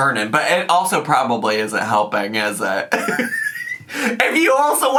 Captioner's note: laughs